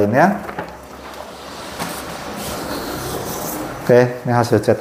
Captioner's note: printer machine noise